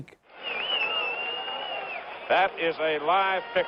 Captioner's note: cheers and applause